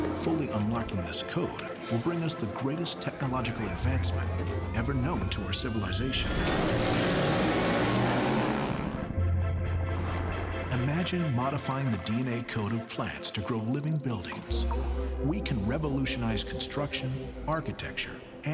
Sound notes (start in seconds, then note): 0.0 machines whirring; 6.1 motors buzzing; 9.2 intense music